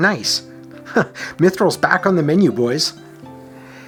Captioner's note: chuckles